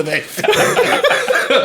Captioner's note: laughing